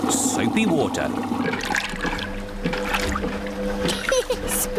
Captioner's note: machine rumbles; giggles